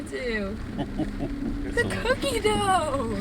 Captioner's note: laughing